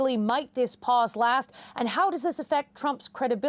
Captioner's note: none